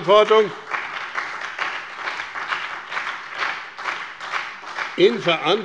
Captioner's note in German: Beifall bei dem BÜNDNIS 90/DIE GRÜNEN und bei Abgeordneten der SPD